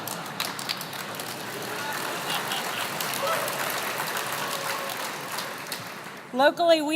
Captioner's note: laugh; applause